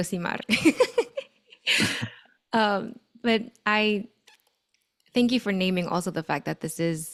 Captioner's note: laughs